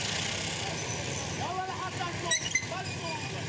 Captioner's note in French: Arab spoken audio